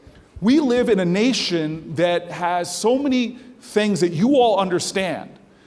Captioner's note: none